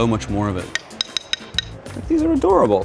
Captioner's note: wood clacking